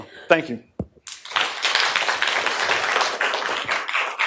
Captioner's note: applause